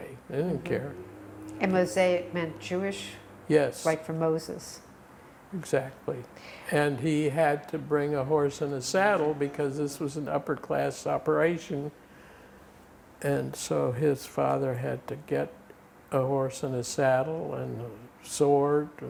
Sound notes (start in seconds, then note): 1.9 non-english